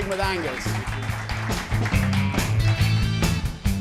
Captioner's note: applause